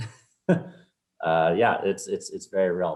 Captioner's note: laughs